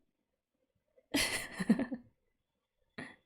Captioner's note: laughs